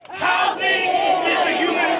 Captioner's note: crowd